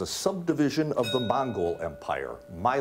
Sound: bell rings

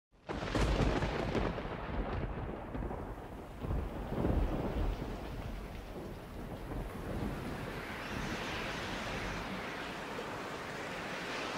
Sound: sound of thunder, rain falling, wind blowing

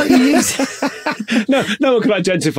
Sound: both laughing

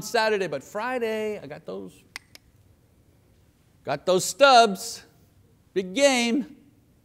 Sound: clicks tongue

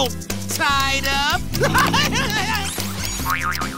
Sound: laughs

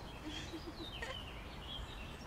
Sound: laughter

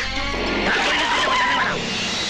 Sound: brakes squeal

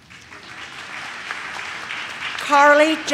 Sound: audience claps

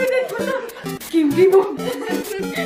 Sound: imitating Julianna

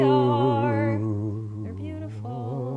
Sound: humming

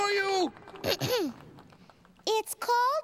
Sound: clears throat

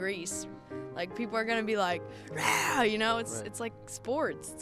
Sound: roars

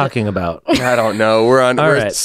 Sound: laughs

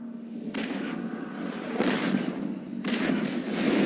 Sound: digitized landslide sounds

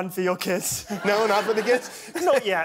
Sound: laughter

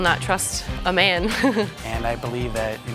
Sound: chuckles

